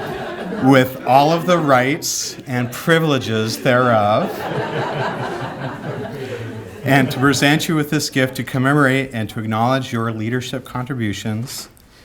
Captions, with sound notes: with all of the rights and privileges thereof, (laughter) and to present you with this gift to commemorate and to acknowledge your leadership contributions